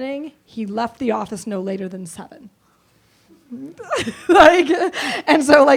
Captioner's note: laughs